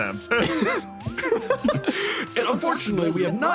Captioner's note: laughs